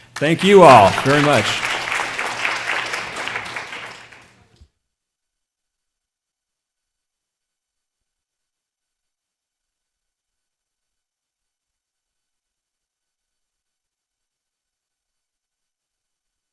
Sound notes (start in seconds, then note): 2.2 applause